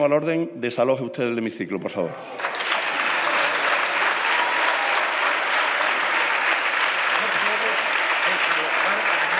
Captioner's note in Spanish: Aplausos.-Pausa